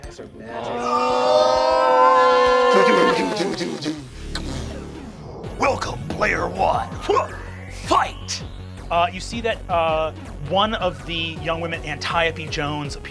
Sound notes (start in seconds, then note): 0.5 groups shouts; 4.1 ominous electronic beeping